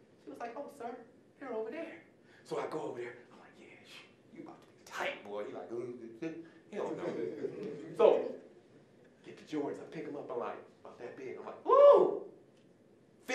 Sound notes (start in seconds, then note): 6.9 audience chuckling